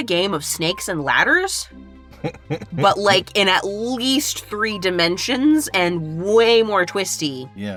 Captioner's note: chuckles